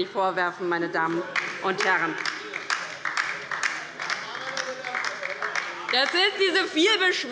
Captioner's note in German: Beifall bei der LINKEN